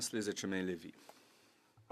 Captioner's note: speaking French